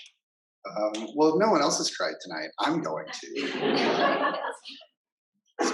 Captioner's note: laughter